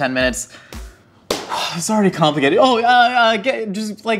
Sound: claps

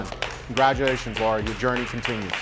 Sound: competitors clapping

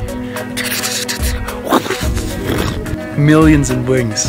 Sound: flapping Sounds

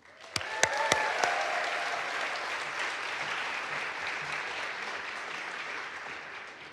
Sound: audience applauds; audience cheers

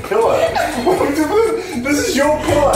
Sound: laughs

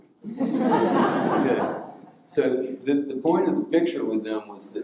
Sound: audience laughing

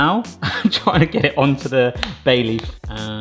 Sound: laughing

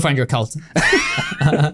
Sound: both laughing

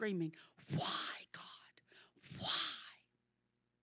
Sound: whispering

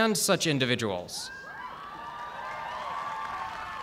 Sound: cheers and applause

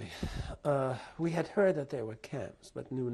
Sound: sighs

